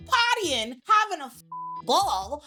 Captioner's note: beep